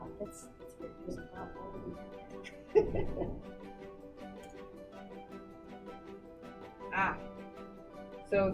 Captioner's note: laughs